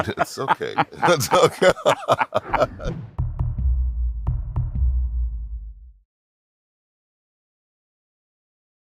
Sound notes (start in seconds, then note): 1.9 laughter